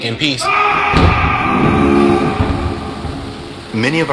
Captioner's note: screaming